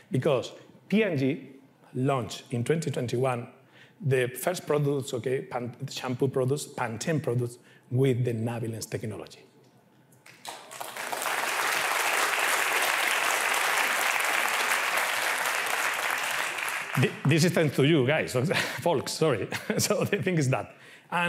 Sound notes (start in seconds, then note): 10.2 applause